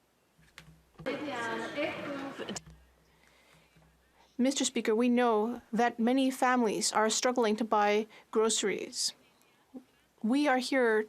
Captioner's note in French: applaudissements